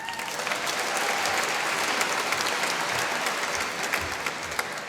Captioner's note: applause